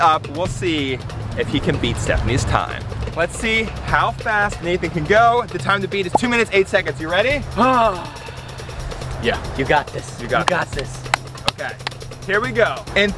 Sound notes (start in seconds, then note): 7.9 groans